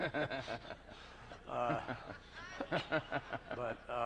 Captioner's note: laughter